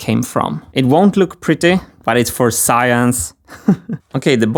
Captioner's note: chuckles